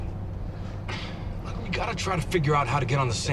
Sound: sighs

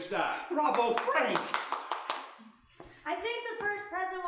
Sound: clapping

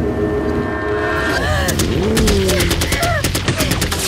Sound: gunshots

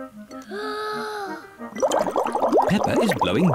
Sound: takes big breath

